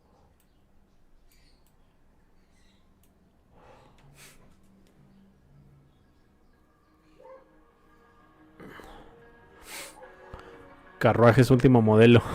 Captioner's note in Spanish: resoplido